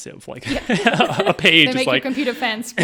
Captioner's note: all laughing